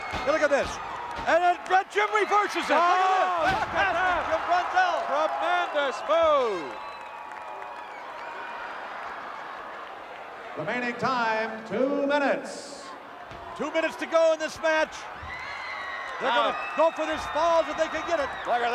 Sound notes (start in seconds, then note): 7.1 applause